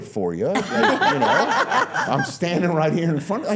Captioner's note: all laughing